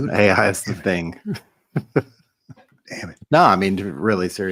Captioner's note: laugh